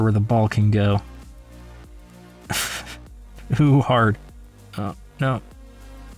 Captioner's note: snickers